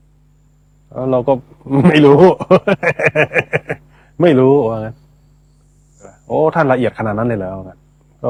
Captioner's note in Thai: เสียงหัวเราะ